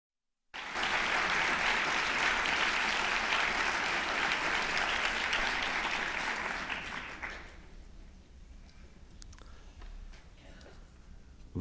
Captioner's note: applause